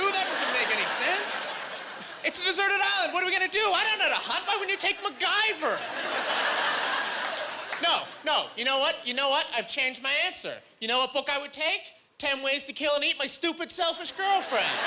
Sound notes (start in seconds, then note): 6.0 laughing